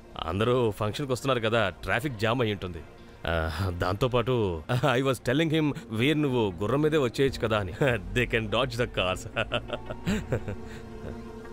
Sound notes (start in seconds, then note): 9.3 giggling